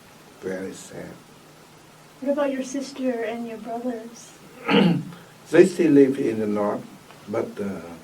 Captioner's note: coughs